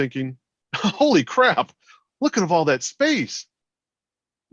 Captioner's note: chuckles